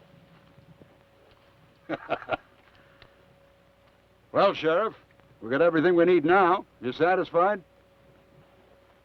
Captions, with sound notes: (Theodore laughs) - Well, Sheriff, we've got everything we need now. Are you satisfied?